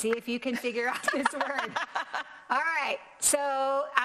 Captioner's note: both laughing